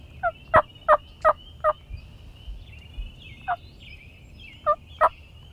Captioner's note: hunter continues using turkey call